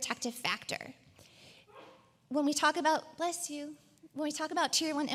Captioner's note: coughs